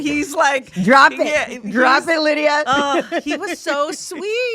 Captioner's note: laughs